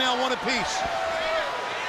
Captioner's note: crowd chatter